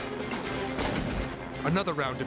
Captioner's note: gunshot booms